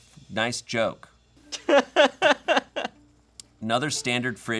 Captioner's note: laughing